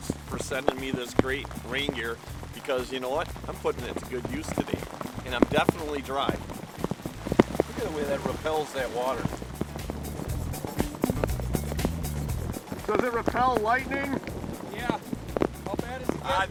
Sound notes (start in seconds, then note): 11.5 thunder